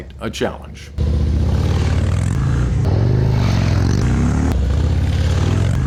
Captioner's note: motorcycle engine revving